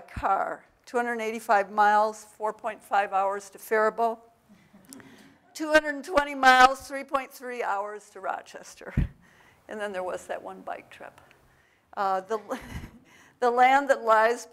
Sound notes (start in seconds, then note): 3.9 audience laughs; 12.3 laughs